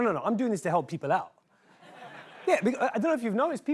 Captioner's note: laughter